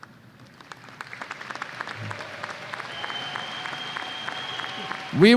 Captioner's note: applause and cheers